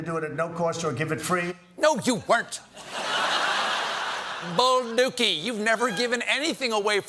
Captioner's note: laughter